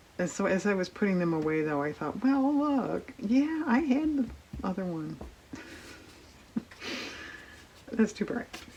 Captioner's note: laughs